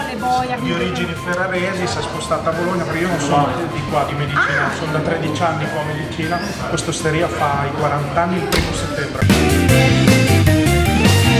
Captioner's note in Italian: Applauso